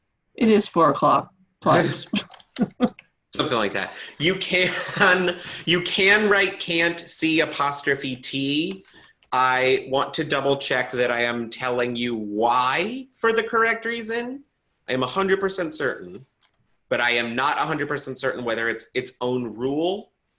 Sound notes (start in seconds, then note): 1.7 chuckles; 4.4 chuckles